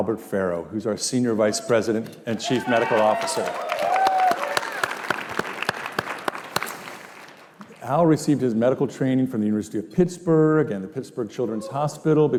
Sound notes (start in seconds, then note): 3.8 cheers and applause